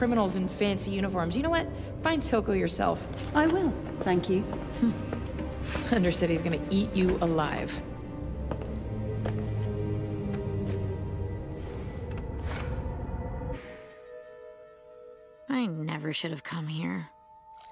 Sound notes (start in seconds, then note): 4.5 Vi scoffs; 11.4 Caitlyn sighs